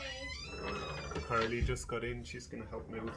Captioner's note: door squeaking